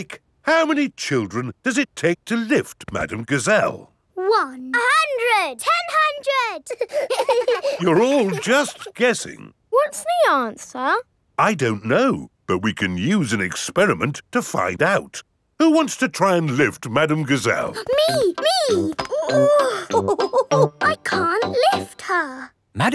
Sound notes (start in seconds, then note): 6.6 children laughing; 18.6 chuckles; 19.5 straining